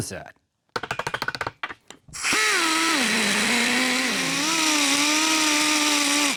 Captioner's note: grinder Whirring